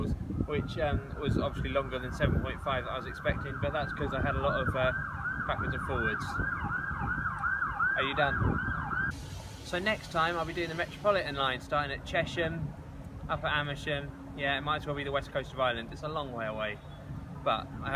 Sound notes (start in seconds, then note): 7.6 siren